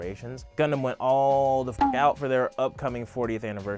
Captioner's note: beep